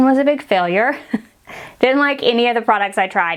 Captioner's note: woman chuckles